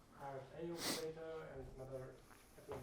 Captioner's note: tutor inhales sharply